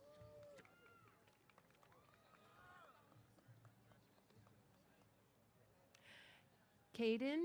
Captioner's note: applause